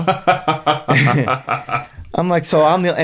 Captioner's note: laughing